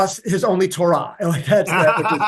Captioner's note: laughs